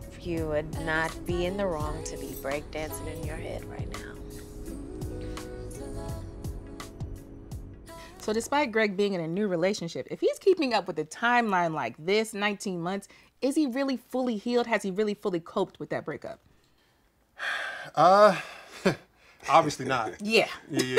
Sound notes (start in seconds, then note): 17.4 sighs